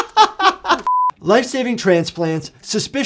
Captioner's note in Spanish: se ríe; pitido electrónico